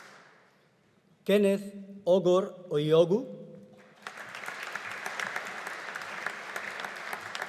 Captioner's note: audience applauding